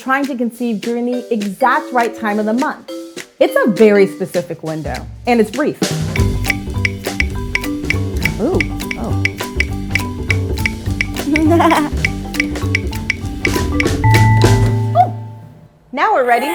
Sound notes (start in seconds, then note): 6.5 upbeat percussion music; 11.2 laughs; 14.0 bell ringing